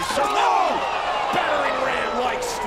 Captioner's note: commentators exclaim